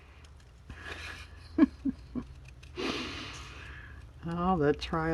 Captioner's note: laughs